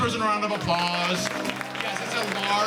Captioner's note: applause